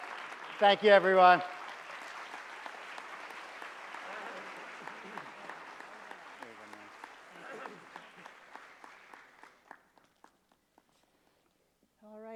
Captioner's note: applause